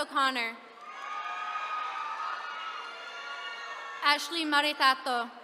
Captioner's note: attendees cheering